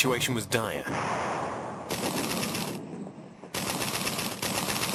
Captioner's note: artillery fires